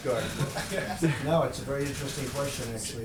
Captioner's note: laughter